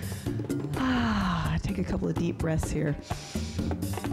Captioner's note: sighs